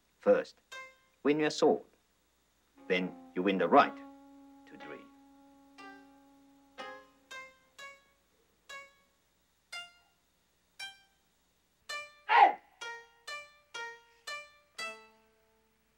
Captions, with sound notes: - First, when you have soul, then you win the right to dream. (gentle music) (Mikio grunts)